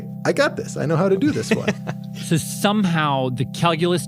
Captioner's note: laughs